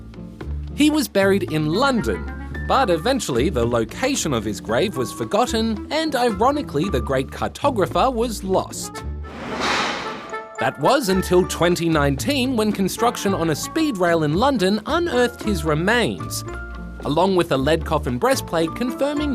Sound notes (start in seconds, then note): none